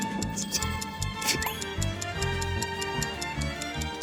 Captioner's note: the sound of losing 30 seconds